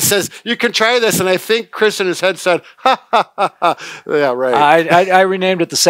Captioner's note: laughing